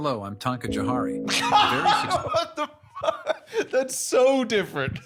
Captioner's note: laughing